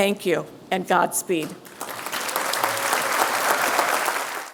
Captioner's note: applause